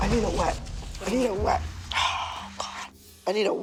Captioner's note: sighs heavily